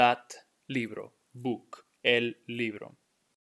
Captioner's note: speaking in Spanish